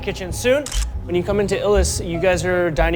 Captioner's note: camera shutter clicks